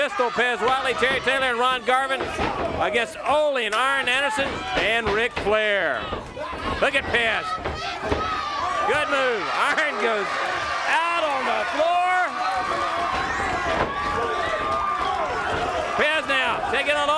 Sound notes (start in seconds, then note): 7.3 crowd cheering